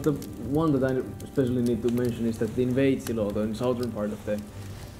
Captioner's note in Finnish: oppaan puhe hiljenee taustalle, nuotion ääni voimistuu